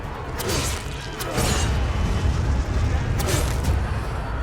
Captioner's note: claws slash